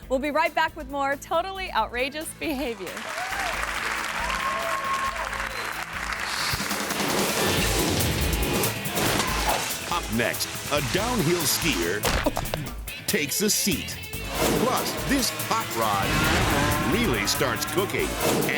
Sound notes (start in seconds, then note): 2.6 audience clapping; 6.8 upbeat music